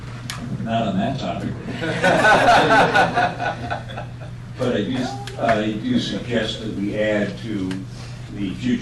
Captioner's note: laughter